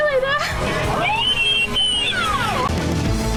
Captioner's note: mom screaming; dramatic music